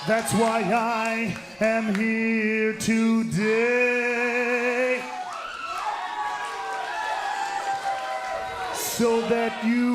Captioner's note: cheers & boos